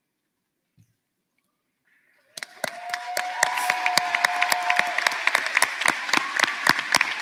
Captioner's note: cheers and applause